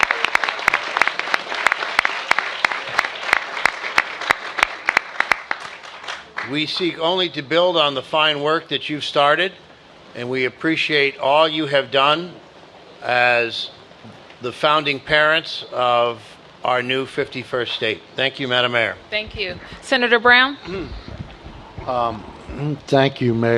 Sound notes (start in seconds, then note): 2.9 applause